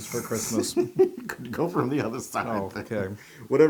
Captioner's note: laugh